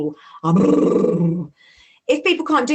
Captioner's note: brrrr